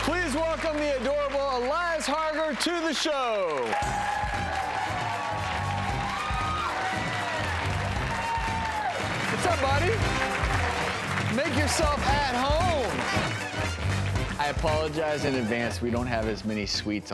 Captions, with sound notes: Please welcome the adorable Elias Harger to the show. (applause) What's up, buddy? Make yourself at home. Thanks. I apologize in advance, we don't have as many sweets